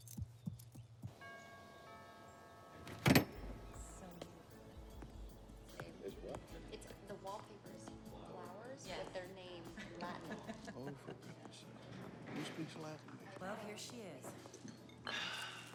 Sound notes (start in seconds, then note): 1.2 doorbell ringing; 4.2 smooth music